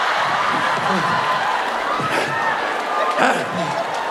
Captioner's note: audience screaming